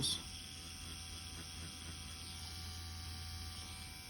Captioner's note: machine whirring